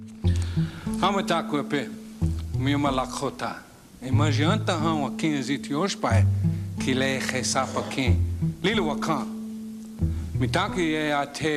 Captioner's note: speaks in Lakota language